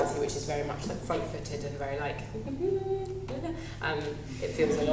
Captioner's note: feminine humming